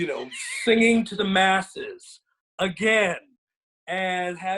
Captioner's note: laughs